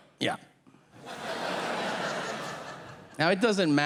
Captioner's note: audience laughing